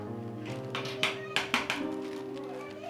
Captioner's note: door-knock